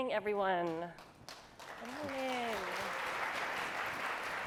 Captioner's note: applause